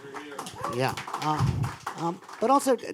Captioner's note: applause